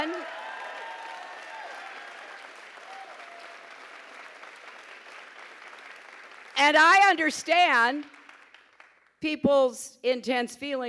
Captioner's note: applause, pause